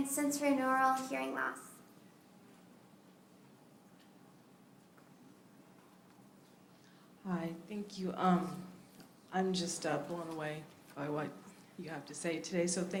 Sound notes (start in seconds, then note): 3.7 silence